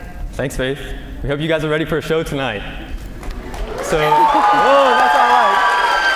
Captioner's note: cheers and applause